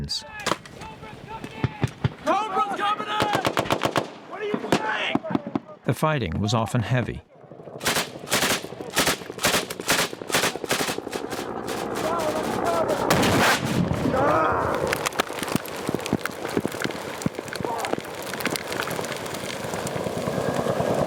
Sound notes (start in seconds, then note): 0.3 yelling; 7.8 gunfire; 12.0 explosion